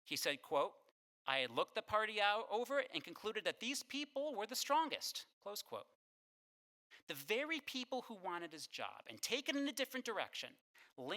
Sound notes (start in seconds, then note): none